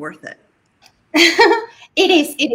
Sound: giggles

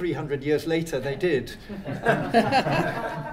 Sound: laughter

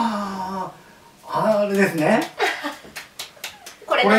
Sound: laughs

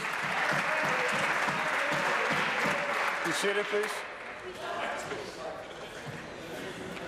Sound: applause

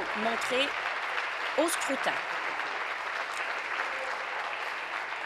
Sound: applause

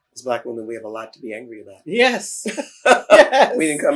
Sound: laughter

